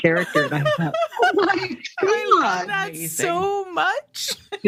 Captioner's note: laughter